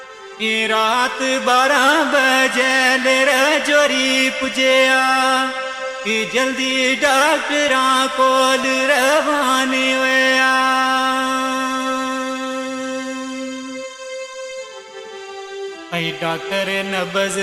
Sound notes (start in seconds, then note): none